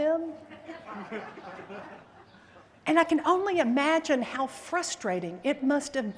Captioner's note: laughter